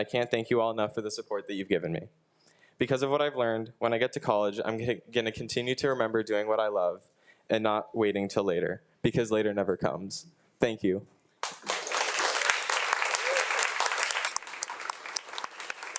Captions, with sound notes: and I can't thank you all enough for the support that you've given me. Because of what I've learned, when I get to college, I'm gonna continue to remember doing what I love and not waiting till later because later never comes. Thank you. (audience applauds)